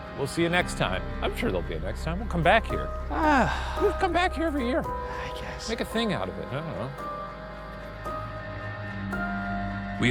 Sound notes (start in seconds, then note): 3.1 exhales heavily; 8.0 dark gloomy music